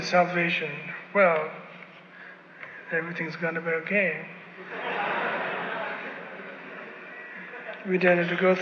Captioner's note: laughter